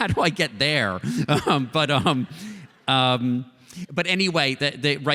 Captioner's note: laughter